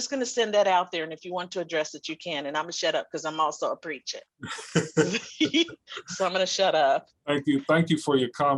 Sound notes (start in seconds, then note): 4.4 laughing